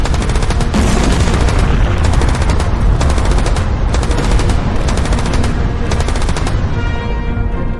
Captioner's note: explosions booming; guns firing; dramatic orchestral music